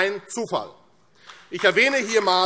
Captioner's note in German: Beifall AfD